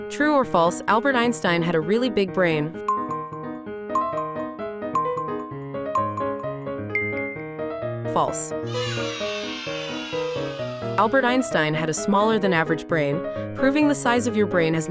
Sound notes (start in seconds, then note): 3.5 timer beeping